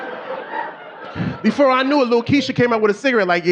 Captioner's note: audience laughing